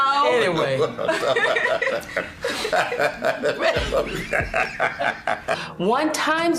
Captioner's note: laughter